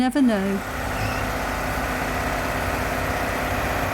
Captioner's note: loud truck noise